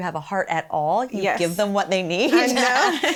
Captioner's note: laughs